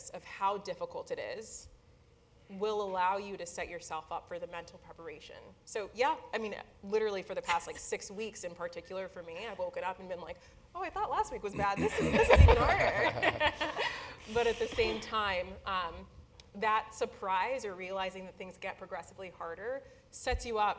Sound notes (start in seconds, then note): 11.5 laugh